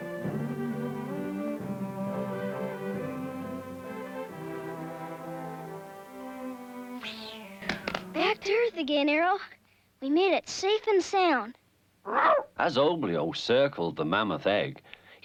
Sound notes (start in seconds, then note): 7.0 swishing; 12.0 Arrow barks